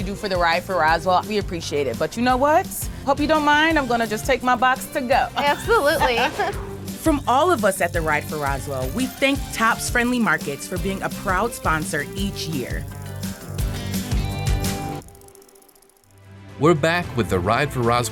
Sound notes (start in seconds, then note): 5.7 graphics whooshing; 12.6 bicycle riding; 16.0 bright motivational music